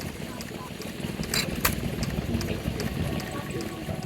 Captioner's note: engine clacking